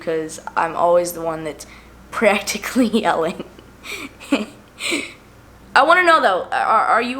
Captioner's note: laughs